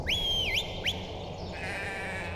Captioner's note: birds chirping; sheep blurting